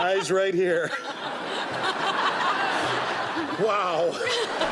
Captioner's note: laughter